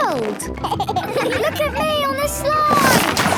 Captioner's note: giggles